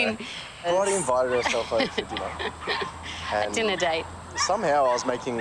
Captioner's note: laughs